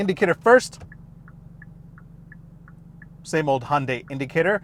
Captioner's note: clicking